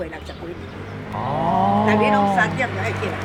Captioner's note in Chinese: 佩服之音